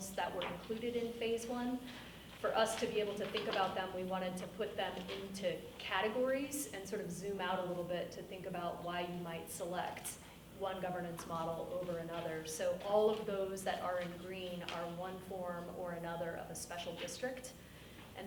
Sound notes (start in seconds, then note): none